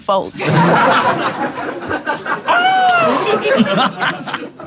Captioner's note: people in room laughing